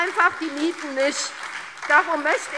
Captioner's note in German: Beifall SPD und DIE LINKE - Zurufe CDU